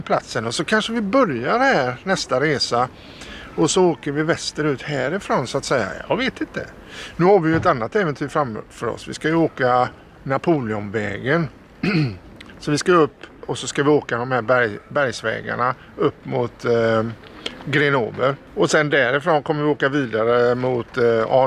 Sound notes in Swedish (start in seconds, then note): 11.8 harklar sig